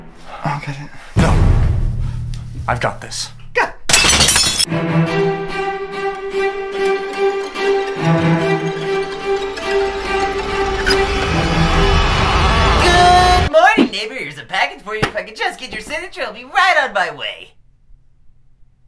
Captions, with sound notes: I'll get it. No! I've got this. Guh! [glass shatter] [door knob squeak] Go-oo-od morning, neighbor! Here's a package for you. If I could just get your signature I'll be right on my way!